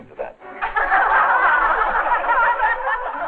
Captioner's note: women laughing